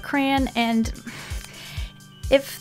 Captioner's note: sigh of regretful resentment